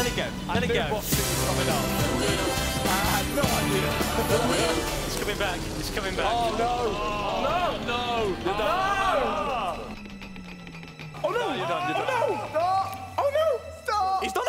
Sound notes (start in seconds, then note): 8.3 shouting